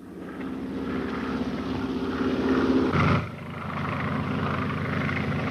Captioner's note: airplane motor whirring